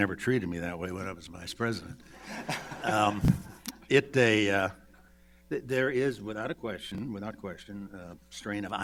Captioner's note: laughter